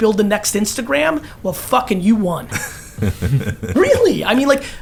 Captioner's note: laugh